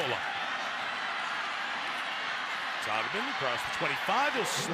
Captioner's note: cheering